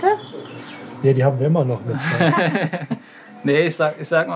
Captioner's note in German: Gelächter